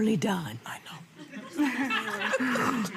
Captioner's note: crowd laughs